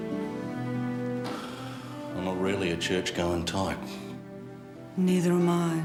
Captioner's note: sighs